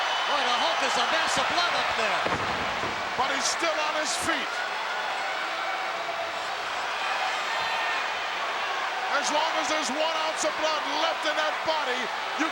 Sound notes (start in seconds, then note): 2.2 Hulk thuds; 4.6 crowd yelling